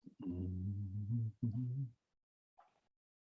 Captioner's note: humming